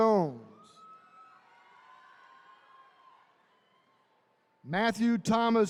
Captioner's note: attendees cheering